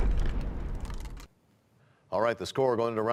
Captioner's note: crashing sound